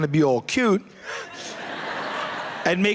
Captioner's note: laughter